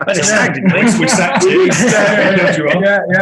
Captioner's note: group laughing